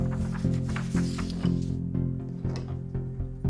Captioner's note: rustling paper